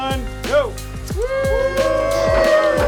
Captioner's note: cheers and applause